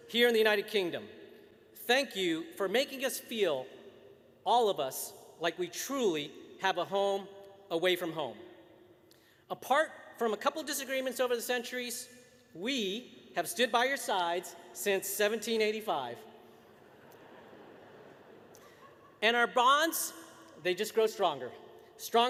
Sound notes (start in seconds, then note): 16.6 laughter